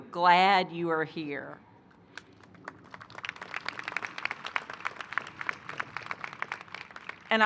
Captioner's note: applause